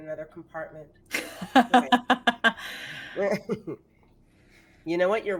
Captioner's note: laughing